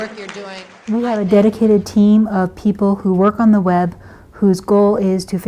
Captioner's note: voiceover